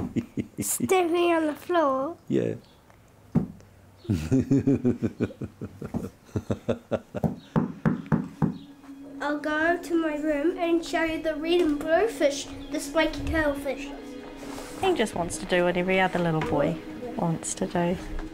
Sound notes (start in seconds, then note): 4.0 man laughing